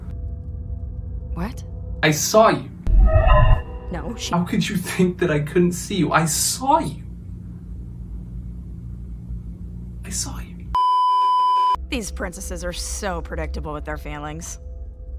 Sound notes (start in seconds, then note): 10.7 beeeeeeeeeeeep